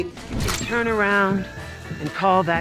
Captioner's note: air whooshing